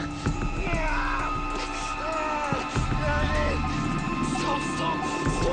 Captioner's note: moans and groans loudly